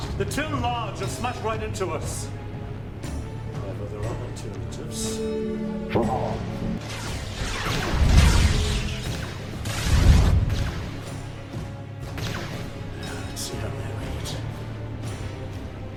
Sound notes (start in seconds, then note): 6.0 Jarova speaking in foreign language; 6.7 laser blasts